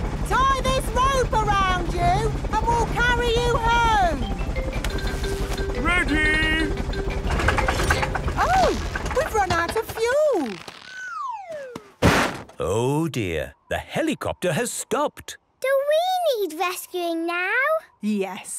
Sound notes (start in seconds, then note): 7.2 helicopter engine sputtering; 11.9 bangs